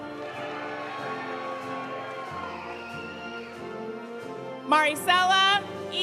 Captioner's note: audience applauding; audience cheering